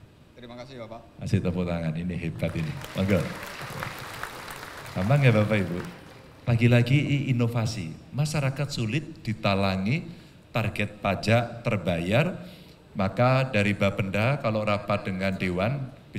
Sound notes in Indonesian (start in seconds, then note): 4.2 tepuk tangan